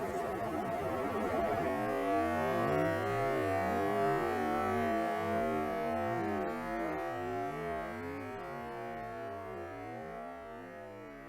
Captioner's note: weird electronic sound, which is an artifact of slowing down the fan sound